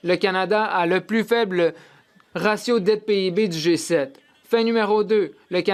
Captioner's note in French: voix de l'interprète